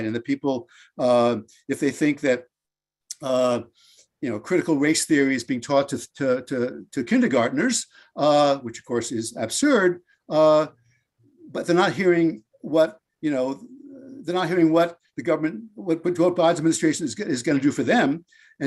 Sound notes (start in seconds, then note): none